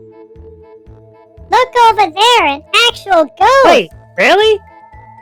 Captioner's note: excitedly